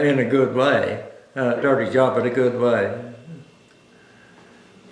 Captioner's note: laughs